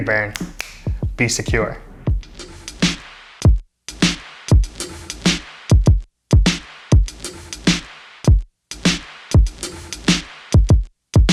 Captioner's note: snaps fingers